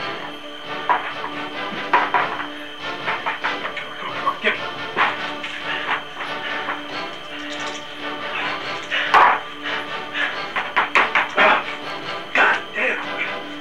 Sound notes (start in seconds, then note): 1.3 game piece moving; 8.1 game piece moving